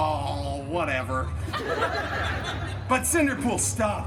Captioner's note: guests laughing